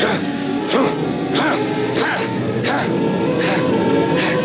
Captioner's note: argh!